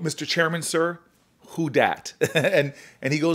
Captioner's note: chuckles